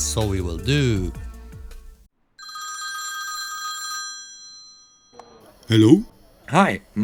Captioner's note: phone rings